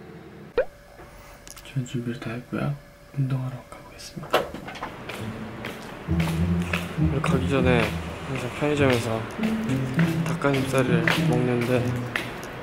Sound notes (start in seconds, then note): 4.5 walking sound